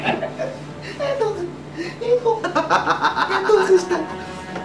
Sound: laughs

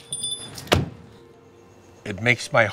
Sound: car door slams

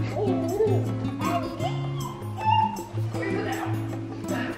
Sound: baby babbling

